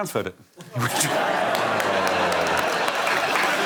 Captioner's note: laughter